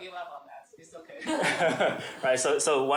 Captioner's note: laughs